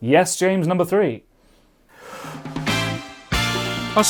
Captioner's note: inhale